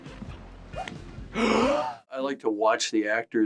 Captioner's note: Barbies gasp